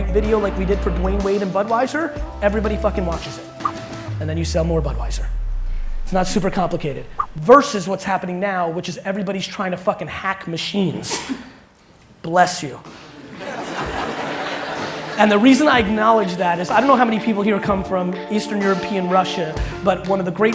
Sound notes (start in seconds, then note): 11.0 sneeze; 13.1 crowd laughing